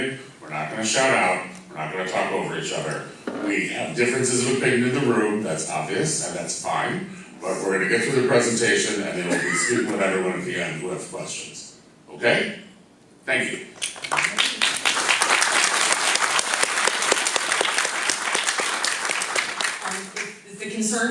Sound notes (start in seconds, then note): 13.8 claps